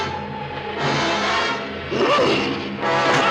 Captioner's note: ominous music; creature grunting; screaming loudly